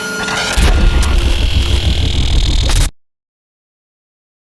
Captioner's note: static playing